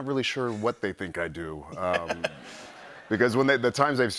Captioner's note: laughter